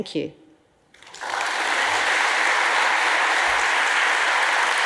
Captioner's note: audience applauds